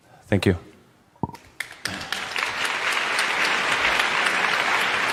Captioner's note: applause